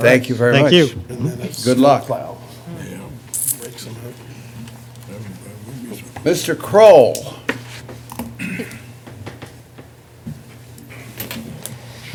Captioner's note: low chatter